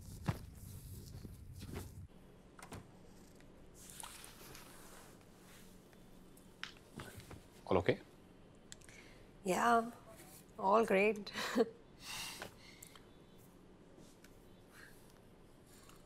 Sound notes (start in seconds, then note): 2.4 door closes; 10.9 chuckles